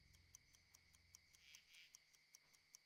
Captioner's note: clock ticking softly